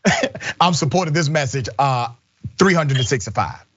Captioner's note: laugh